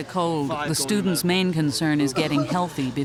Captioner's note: voiceover